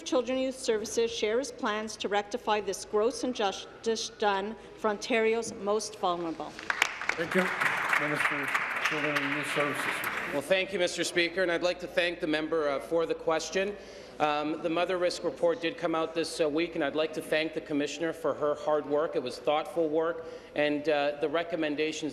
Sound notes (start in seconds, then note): 9.7 applause